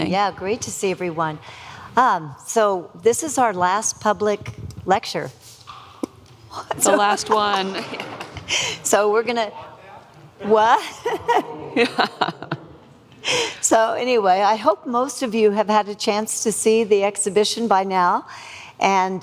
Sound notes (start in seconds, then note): 10.8 laughing; 13.3 both laughing